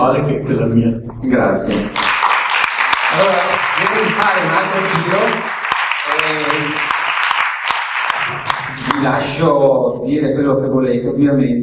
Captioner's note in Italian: Applauso